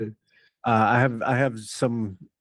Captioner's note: laughing